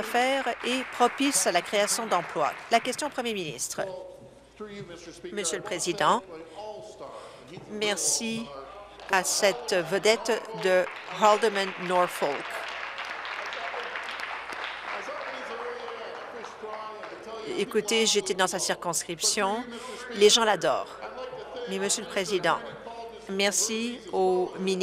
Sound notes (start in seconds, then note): 2.7 applause; 14.9 applause; 17.3 chuckles